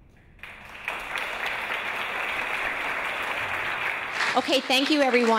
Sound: audience applause

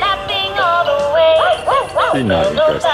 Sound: bow wow wow

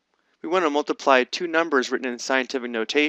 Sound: voiceover

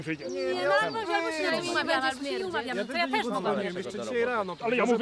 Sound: general comments of displeasement

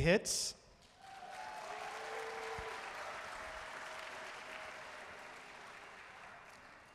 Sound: audience cheering and applauding

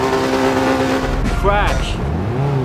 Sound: crash

